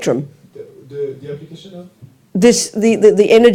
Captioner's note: French